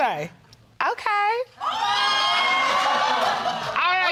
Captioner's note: exclaiming